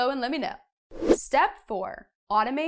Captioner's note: air whooshing